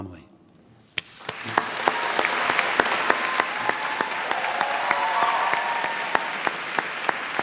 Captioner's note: applause